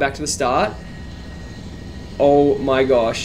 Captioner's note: plane engine roaring